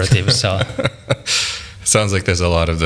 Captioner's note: laughing